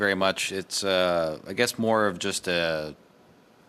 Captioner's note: speaking French